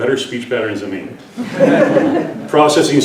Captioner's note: laughter